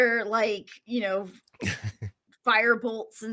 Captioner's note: laughs